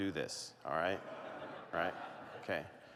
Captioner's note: laughter